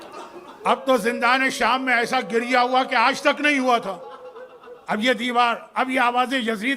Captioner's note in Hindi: हंसी